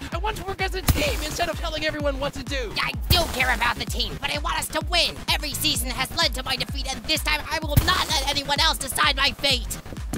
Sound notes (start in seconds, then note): none